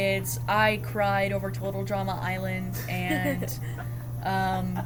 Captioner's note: laugh